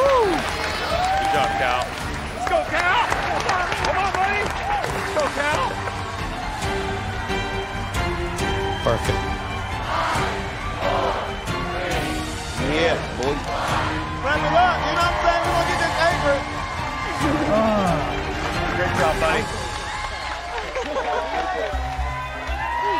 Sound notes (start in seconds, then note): 17.4 sighs; 18.5 crowd cheering